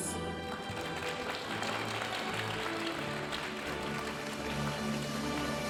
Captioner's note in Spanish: aplausos de la audiencia; continúa la música majestuosa suave en el fondo